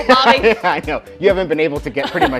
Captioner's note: laughs